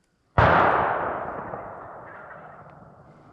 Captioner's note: gun shot